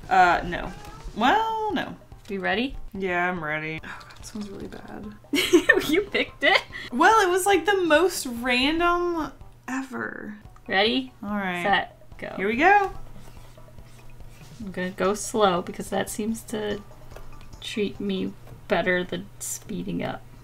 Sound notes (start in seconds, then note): 5.3 laughs